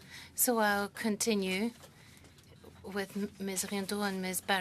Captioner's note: speaking French